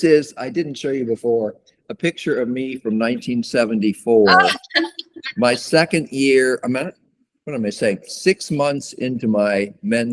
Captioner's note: laughter